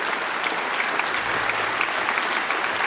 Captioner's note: applause